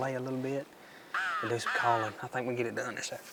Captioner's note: turkey call